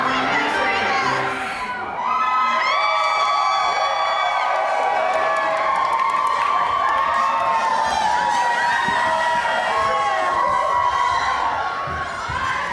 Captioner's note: audience cheers